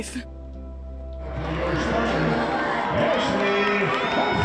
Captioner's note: crowd cheers